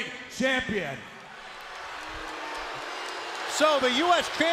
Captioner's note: crowd cheering